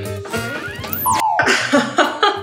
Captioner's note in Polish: sygnał kończonego połączenia